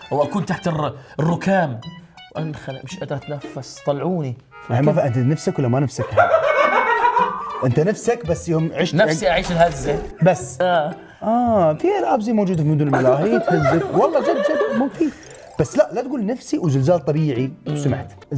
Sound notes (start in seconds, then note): 6.0 laughs; 13.0 everyone laughs